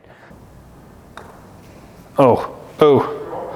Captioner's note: golf ball thumps